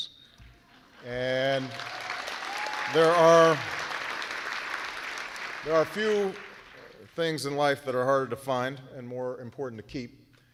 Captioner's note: applause